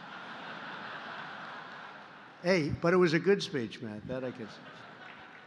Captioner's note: laughter; laughter